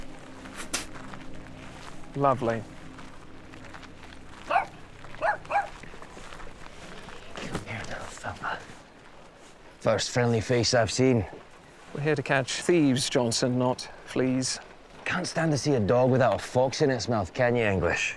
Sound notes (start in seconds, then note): 0.6 spit; 5.2 dog barking